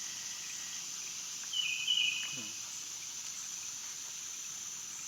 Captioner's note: birds and bugs chirping